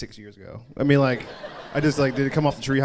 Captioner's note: crowd laughs